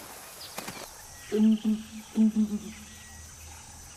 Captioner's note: low chirping